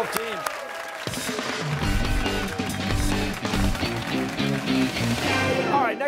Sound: cheers and applause

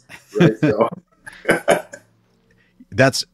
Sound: laughter

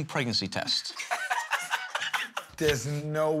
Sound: laughs

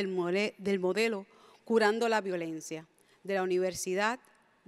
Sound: speaks in Spanish

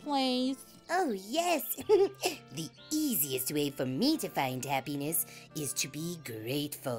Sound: giggle

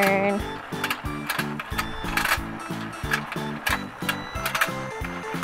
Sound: rattling plastic

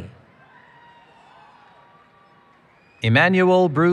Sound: cheering

